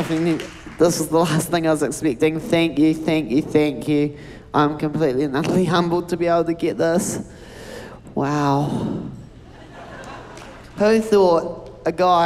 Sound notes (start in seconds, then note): 0.0 cheering, applause